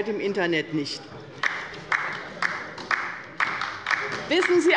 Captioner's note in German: Beifall bei der LINKEN